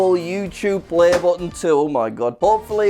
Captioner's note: something pops